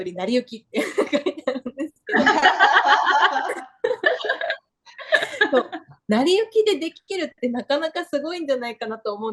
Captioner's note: laughter